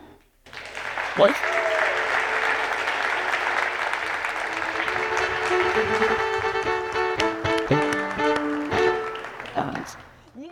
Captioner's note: applause and Music